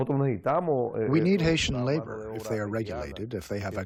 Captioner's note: through translator